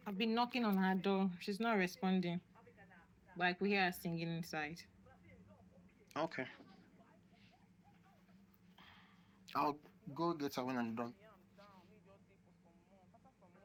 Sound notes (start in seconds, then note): 7.6 neigbours talking; 13.3 neigbours talking